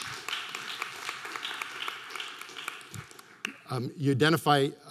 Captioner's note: scattered applause